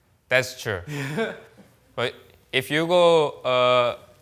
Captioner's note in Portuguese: risos